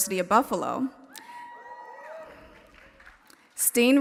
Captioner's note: audience members cheering